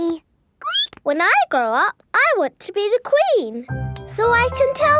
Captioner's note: squeaks